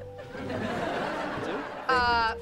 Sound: laughing

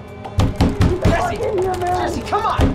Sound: pounds on door

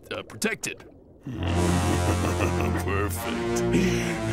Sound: laughing

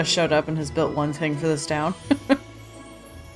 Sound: laughs

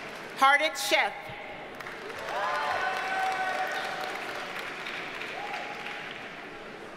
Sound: audience cheers and applauds

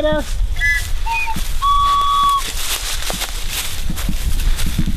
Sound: blowing whistle

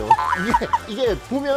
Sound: laughter

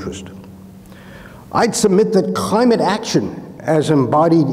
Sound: inhales

